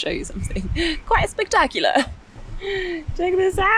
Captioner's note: laughing